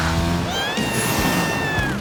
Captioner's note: meowing